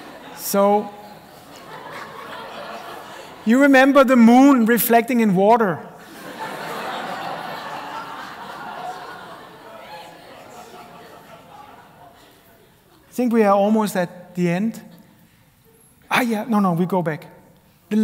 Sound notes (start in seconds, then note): 0.0 laughter; 6.0 laughter